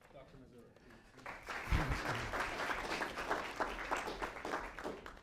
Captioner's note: applause